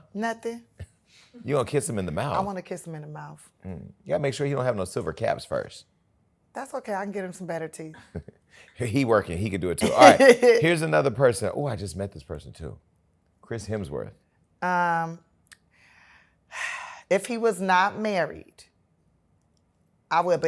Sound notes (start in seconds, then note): 16.0 sighs